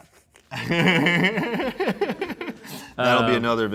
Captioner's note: and crew laugh